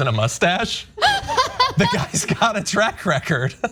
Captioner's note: laugh